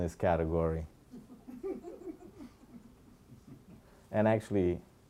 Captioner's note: audience laughing